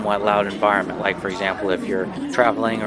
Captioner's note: crowd chatters